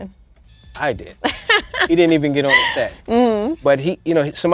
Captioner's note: laughs; laughing